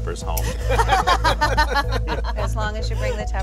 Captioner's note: laughter